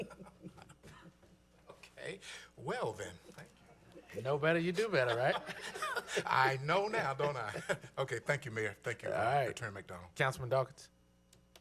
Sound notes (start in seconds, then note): 4.8 laughter